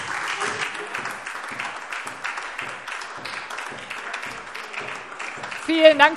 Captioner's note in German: Beifall SPD und vereinzelt DIE LINKE